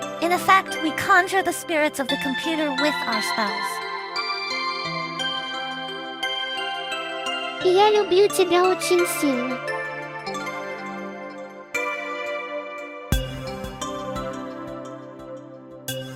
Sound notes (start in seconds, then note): 7.2 speaking Russian